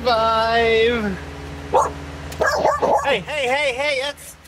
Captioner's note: barking